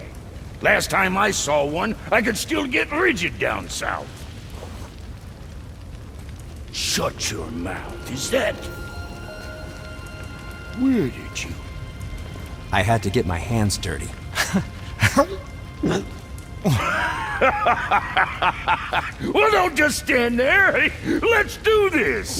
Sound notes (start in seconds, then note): 15.7 gags; 16.7 laughter